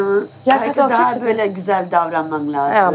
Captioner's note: she speaks Turkish